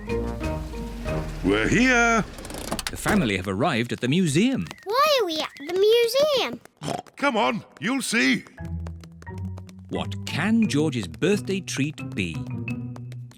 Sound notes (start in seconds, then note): 6.6 oinks